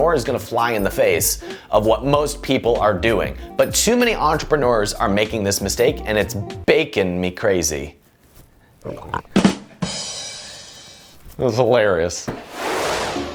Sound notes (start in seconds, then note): 8.8 pig snorting; 9.0 cymbal clashing